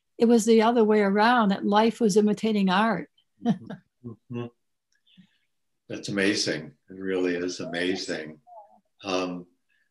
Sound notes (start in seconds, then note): 3.7 laughs